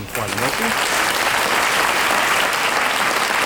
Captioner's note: audience applause